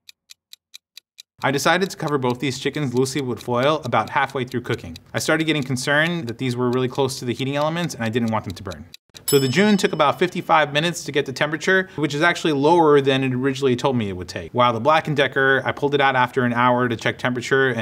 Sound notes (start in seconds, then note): 0.1 timer ticking; 9.2 timing ringing